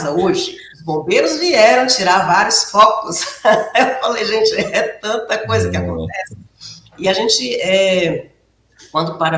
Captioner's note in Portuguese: risadas